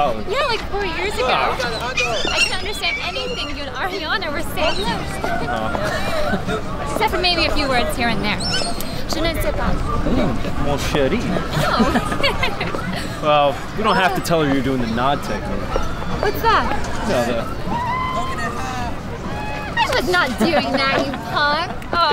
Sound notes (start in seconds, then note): 0.4 seagulls; 11.5 emma giggles